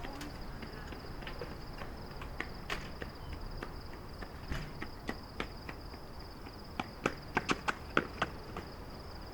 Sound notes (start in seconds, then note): 2.6 door closes; 3.4 running footsteps get closer